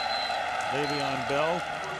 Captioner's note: whistle